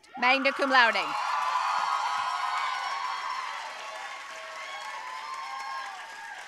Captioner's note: audience cheering and applauding